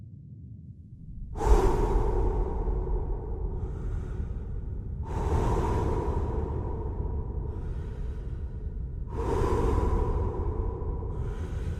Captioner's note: exhalation